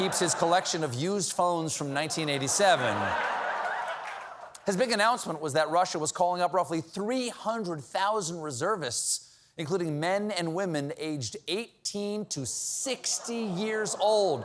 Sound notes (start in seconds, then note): 4.4 laughter